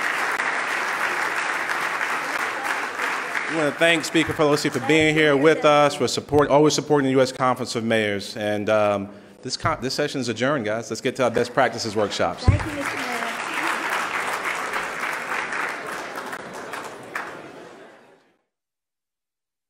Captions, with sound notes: - I want to thank Speaker Pelosi for being here with us, for always supporting the US Conference of Mayors. And this session's adjourned guys, let's get to our best practices workshops. - Thank you Mr. Mayor. (loud clapping)